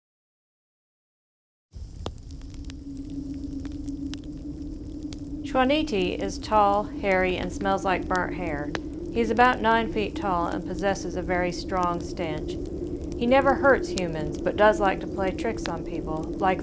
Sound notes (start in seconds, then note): 2.3 wind howling and fire crackling; 5.7 speaks in foreign language